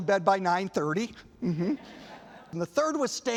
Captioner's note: laughter